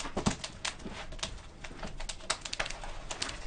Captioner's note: fire crackling